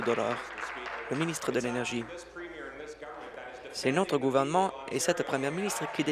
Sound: applause

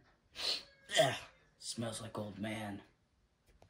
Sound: sniff

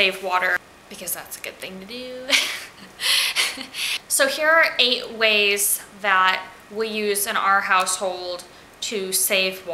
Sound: laughing

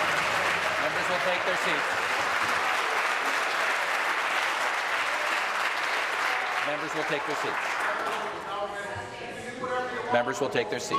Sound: applause

